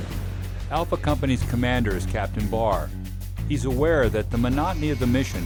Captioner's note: voiceover